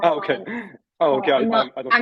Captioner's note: chuckling